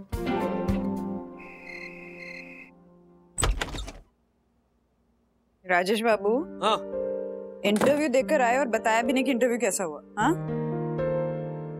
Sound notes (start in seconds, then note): 3.4 door opening